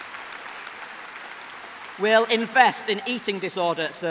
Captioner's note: applause